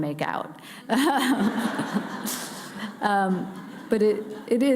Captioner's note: laughing